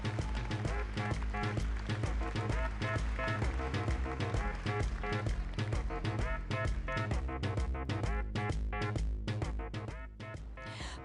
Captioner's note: applause